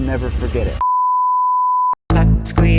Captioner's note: beeps